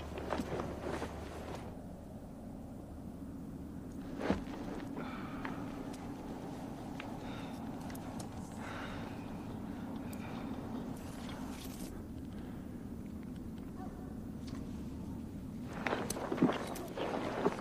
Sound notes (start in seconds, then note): 13.6 distant dog barks